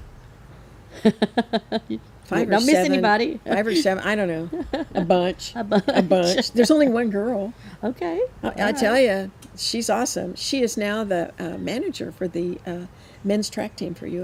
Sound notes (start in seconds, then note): 0.9 laughs; 5.5 laughs